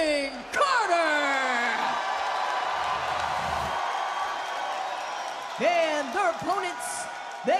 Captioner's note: crowd cheers